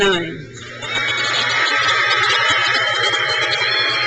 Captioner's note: crowd cheers